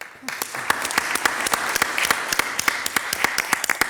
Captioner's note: audience applauds